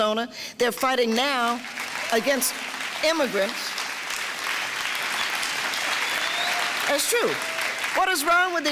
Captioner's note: clapping